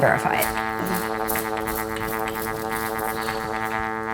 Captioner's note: horn resonating